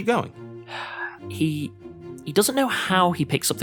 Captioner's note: sighs